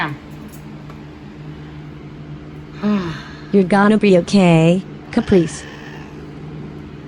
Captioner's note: Caprice meows angrily